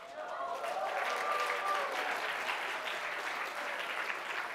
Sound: applause

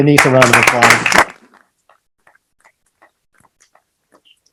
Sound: clapping

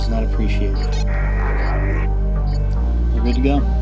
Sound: radio

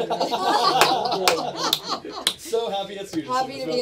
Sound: laugter

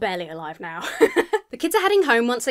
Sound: laughs

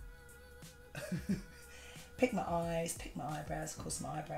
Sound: laughs

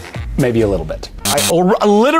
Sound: buzzer

